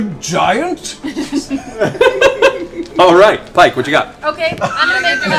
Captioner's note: laughs